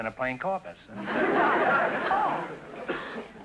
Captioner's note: audience laughter